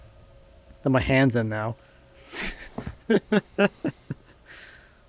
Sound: laughing

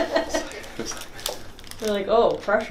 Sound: laughs

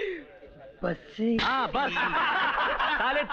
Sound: laughs

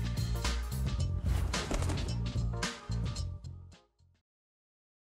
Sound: air whooshes

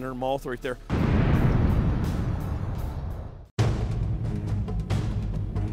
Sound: explosion

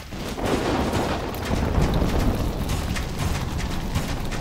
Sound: thunder

